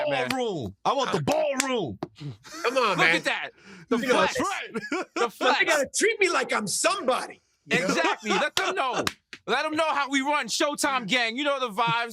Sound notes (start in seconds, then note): 3.9 laughs; 7.7 laughs and claps